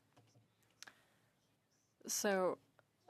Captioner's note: speaking French